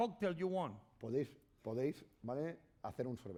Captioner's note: speaking spanish